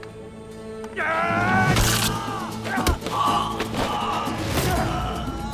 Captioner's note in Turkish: Dövüş sesleri